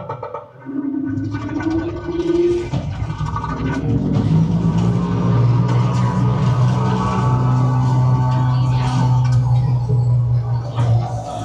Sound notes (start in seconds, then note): 3.6 toilet flushing; 8.4 suspensful music